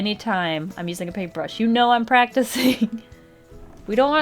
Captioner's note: laughs